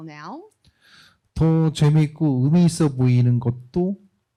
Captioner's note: speaking korean